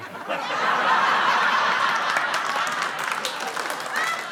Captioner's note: laughter